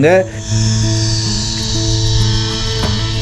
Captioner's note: zooming sound of zip line ride is reverberating in the atmosphere